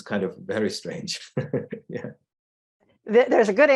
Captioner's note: chuckles